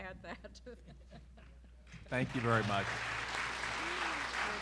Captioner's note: applause